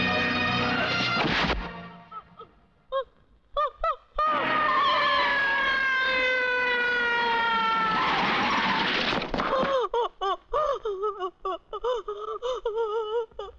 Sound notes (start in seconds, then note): 2.1 sobbing; 4.2 police siren blares; 4.2 tires squealing; 7.9 brakes squeal; 9.4 sobbing